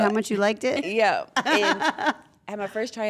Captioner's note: laugh